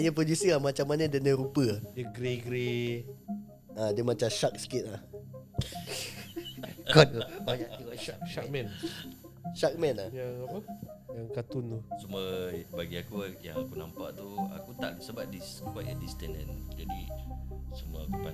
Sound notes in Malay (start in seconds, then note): 5.6 ketawa